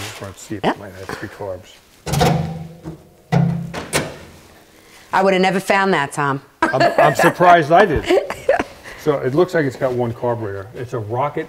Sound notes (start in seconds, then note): 2.3 hood clicking; 8.0 laughing